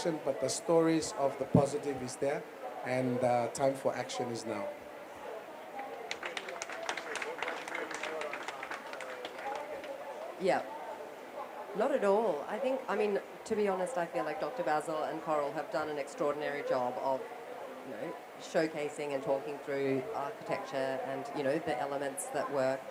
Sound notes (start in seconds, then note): 5.8 applause; 7.8 speaks without mic